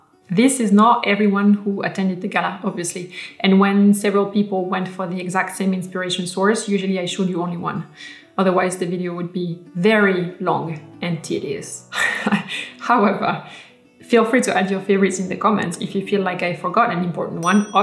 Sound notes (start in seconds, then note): 12.0 laughs